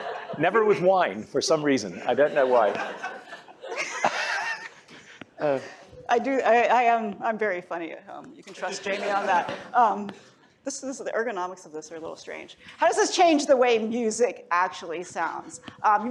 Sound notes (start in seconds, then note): 2.1 laughter